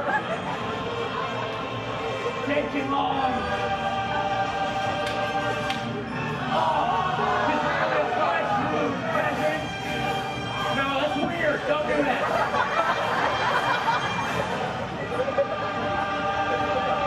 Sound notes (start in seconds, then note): 0.0 audience laughs; 12.1 laughter